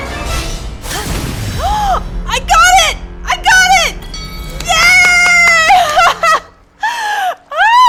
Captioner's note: gasp